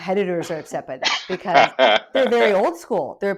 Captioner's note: laughs